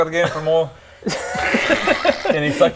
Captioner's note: more disturbed laughter